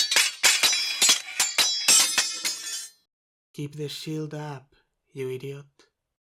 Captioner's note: sound of swords clashing